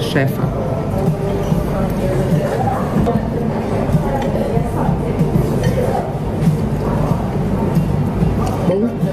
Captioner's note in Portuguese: ambiência de restaurante